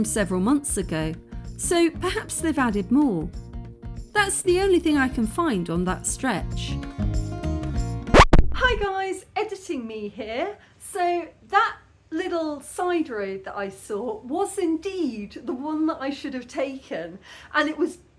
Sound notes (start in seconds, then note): 8.1 record scratch